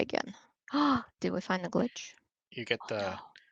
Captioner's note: gasping